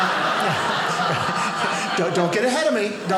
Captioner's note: audience laughing